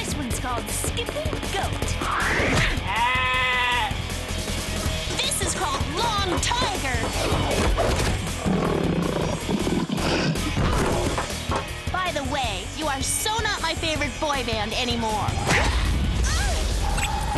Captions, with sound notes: -This one's called skipping goat! [goat bleating] -This is called long tiger! [roaring] -By the way, you are so not my favorite boy band anymore.